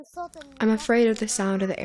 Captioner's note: through translator